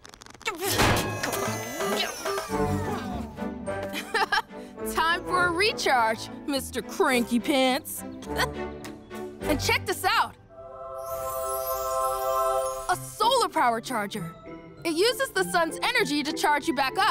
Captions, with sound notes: - (laughs) Time for a recharge, mister cranky pants. And check this out. (ethereal music) A solar power charger. It uses the sun's energy to charge you back up.